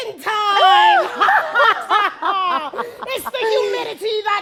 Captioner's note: laughter